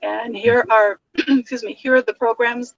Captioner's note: coughs